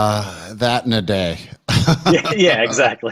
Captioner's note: laughs